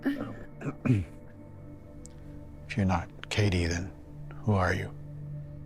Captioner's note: clears throat